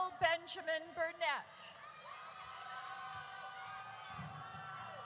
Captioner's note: audience cheers